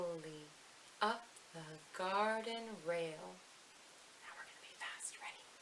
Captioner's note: whispers